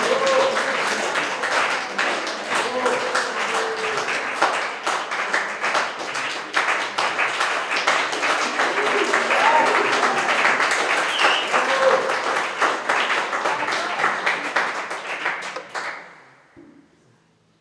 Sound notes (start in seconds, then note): 5.1 applause continues; 8.6 whooping